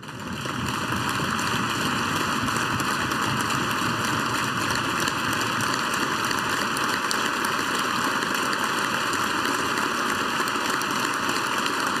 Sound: applause

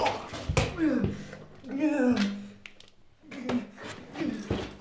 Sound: grunting; groaning

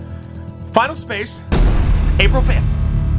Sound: bang

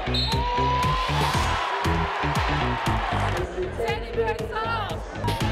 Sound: whistle blowing; crowd cheering

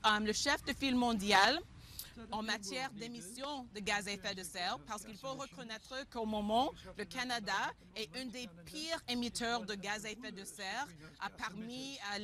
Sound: speaking French

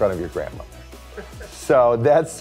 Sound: person laughing

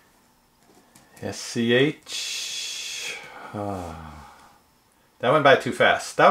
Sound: sighs

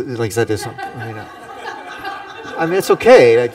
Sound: laughter

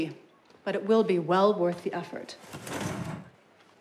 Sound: chair moving

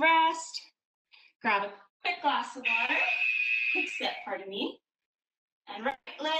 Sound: alarm blares

